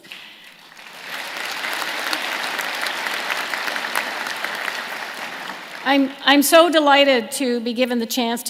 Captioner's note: applause